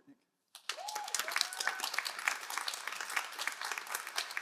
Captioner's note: all applauding